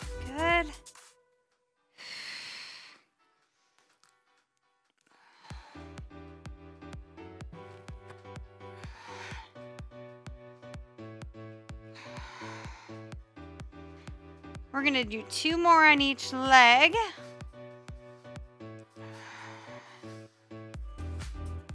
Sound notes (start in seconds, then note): 2.0 exhales; 19.0 exhales